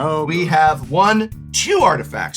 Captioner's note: counting